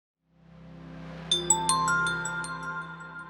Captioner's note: chiming